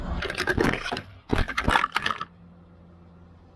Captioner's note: crashing